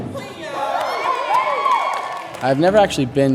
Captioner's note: group cheering